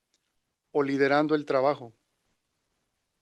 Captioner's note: non-english speech